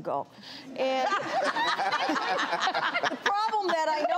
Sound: laughing

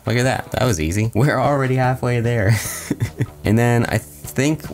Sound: laughs

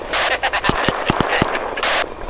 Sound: laughing

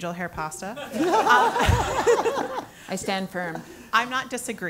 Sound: laugh

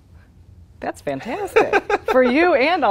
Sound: laughing

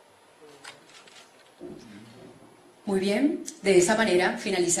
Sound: in Spanish, via interpretation

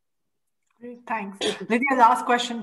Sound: clearing throat

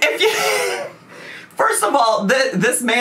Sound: laughs

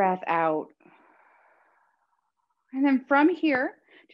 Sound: exhaling deeply

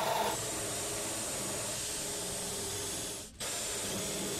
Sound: drilling

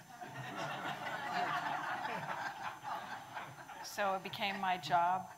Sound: audience laughing

